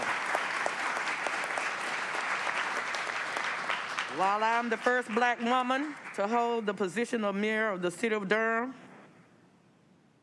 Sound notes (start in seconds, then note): 4.9 applause